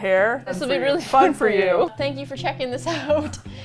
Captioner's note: laughs